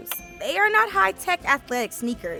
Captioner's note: dinging